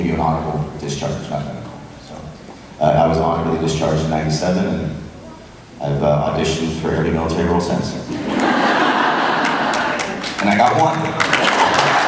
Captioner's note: crowd cheers